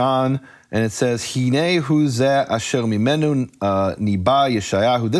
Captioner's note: speaking foreign language